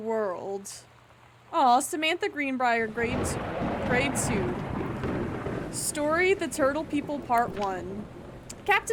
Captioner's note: loud Thunder